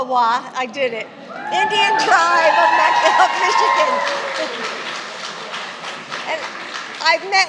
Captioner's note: applause